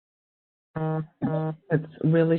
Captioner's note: phone beeping